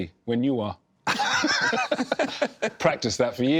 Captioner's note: laughter